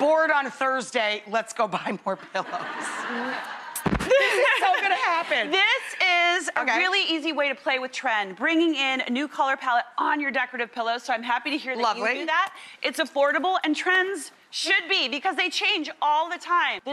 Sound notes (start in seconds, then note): 2.4 crowd laughs